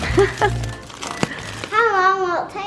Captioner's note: laughing